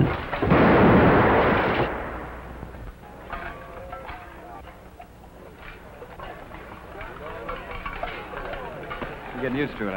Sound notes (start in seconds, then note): 0.0 incoming artillery shell whistling; 0.0 explosion; 3.0 metal clanging and metal dropping